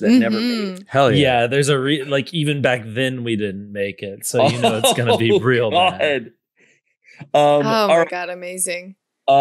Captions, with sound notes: that never made it. - Hell yeah. - Yeah, even back then we didn't make it. So, it's gonna be real bad. - (laughs) Oh, god. - Oh, my god, amazing.